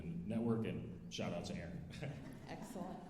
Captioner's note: alumni laughing